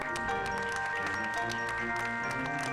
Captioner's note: audience applauding; slow upbeat music